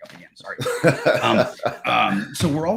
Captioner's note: laughs